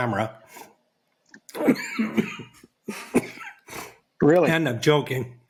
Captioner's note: coughs